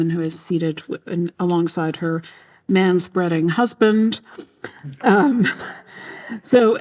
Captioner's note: laughs